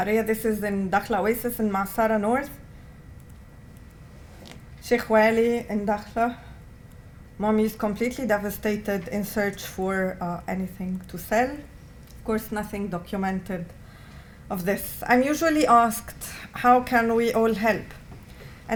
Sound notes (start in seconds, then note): 4.8 non-english